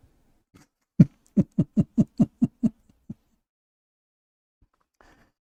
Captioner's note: Ketawa